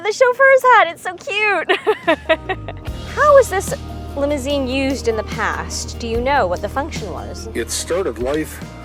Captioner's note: laughs